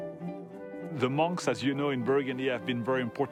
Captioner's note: with French accent